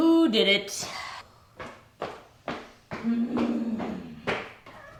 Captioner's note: stomping